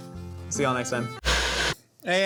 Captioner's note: Static